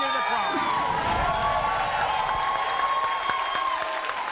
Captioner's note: applause